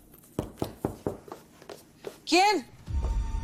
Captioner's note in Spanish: Toques en la puerta